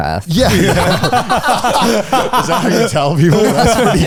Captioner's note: all laughing